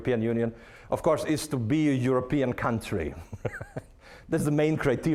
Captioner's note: laughing